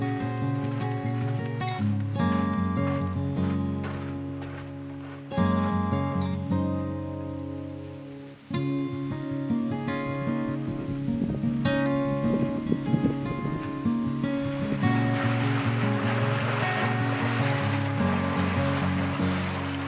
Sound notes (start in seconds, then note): 0.0 footsteps crunching; 10.3 sound of wind; 16.6 footsteps splashing